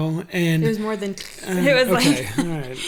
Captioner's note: makes cracking noise